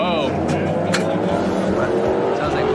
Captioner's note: engine sputtering; clicks